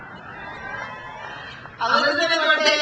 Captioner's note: crowd cheers